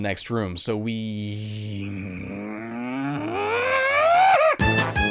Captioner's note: angry grunting